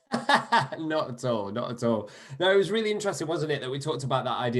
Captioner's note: laughter